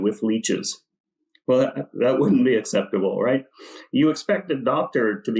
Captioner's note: laughs